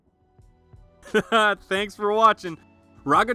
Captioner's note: laughs